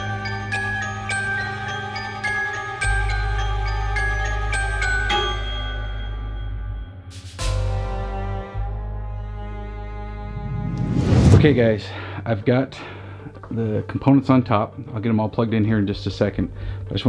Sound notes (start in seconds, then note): 10.2 air whooshes